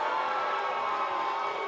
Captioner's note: cheers & boos